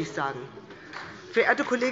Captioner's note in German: Beifall bei der SPD